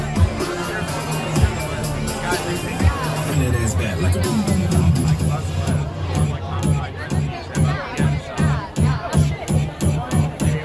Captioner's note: beat accelerates; laughs